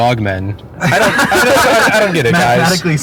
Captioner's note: all laughing